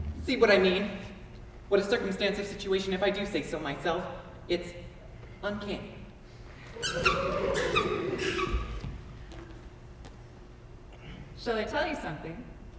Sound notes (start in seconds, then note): 6.6 audience laughs softly; 6.7 extremely squeaky shoes